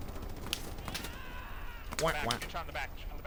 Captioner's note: gunshots